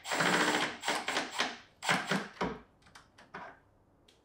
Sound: drill whirring

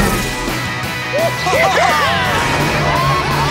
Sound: laughing

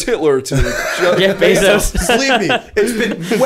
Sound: laughter

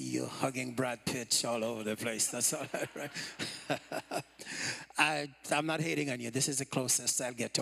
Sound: laughter

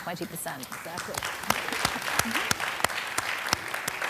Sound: applause

